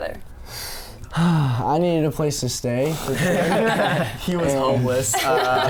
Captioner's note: boys laugh; laughs